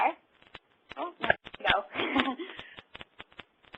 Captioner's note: laughter